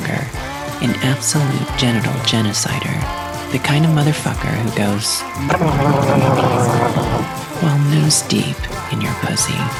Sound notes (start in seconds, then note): 5.4 drowning noises